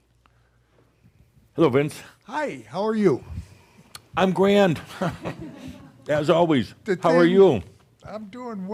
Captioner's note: chuckles